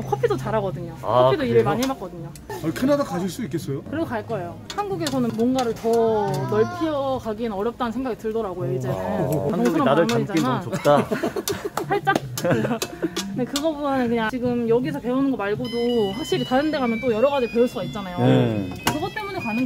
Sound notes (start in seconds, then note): 12.3 laughing